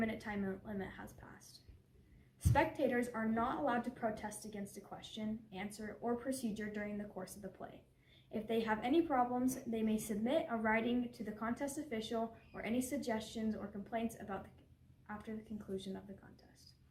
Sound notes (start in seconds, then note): none